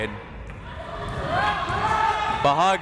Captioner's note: crowd members shouting